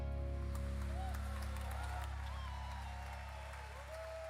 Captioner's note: applause